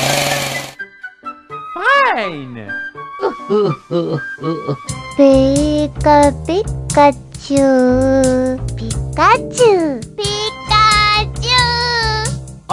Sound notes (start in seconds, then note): 3.2 crying